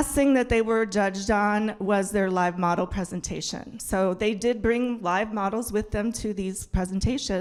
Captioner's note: none